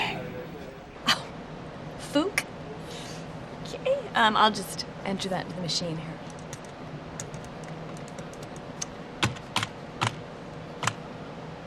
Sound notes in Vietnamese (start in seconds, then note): 0.2 Cười khẩy; 7.9 tiếng gõ phím